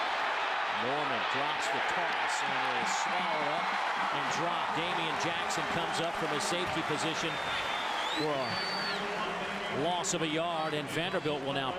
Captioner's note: crowd noise